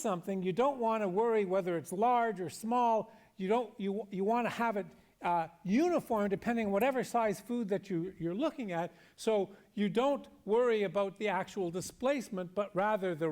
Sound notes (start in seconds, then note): none